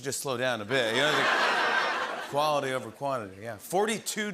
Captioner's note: laughter